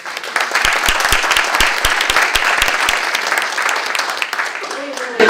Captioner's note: applause